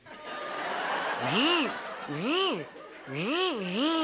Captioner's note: imitates revving